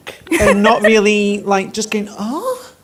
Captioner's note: laughs